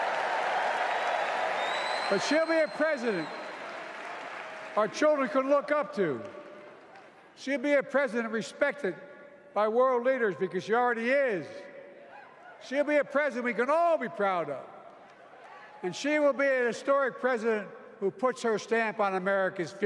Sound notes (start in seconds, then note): 2.6 applause